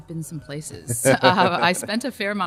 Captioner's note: laughs